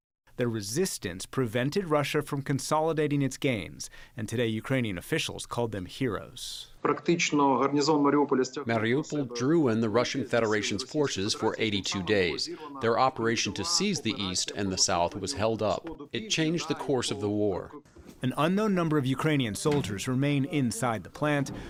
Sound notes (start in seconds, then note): 8.3 through translator